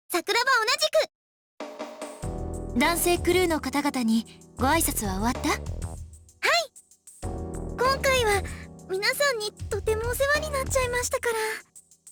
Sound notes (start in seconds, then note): none